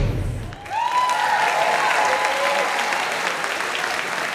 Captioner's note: audience applauding